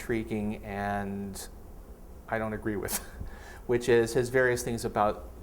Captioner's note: chuckles